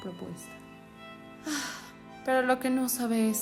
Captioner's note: sighs